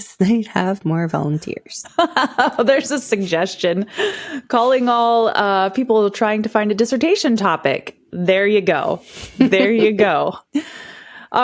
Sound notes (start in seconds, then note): 1.9 laughing